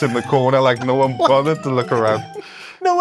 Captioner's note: laughs